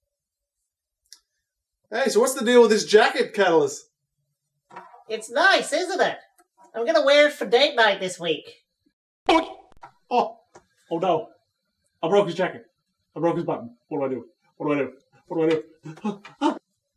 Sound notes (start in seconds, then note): 9.3 dramatic 'Boink' sound